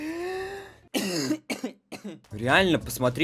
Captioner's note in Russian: кашель